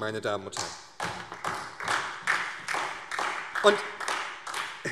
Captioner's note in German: Beifall SPD